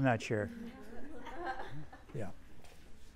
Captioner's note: students laughing